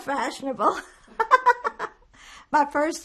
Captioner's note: laughing